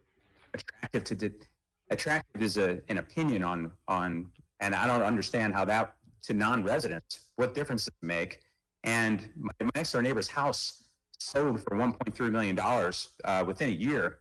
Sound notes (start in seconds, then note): 6.6 audio cutting out